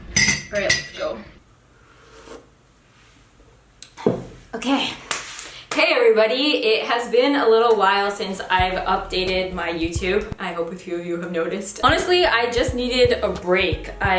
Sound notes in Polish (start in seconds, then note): 2.0 Łyk